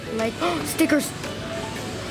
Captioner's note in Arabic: الشهقات